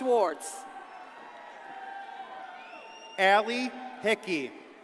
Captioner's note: audience cheers and applauds